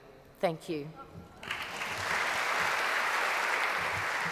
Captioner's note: applause